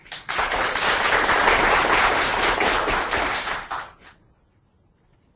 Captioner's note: applauding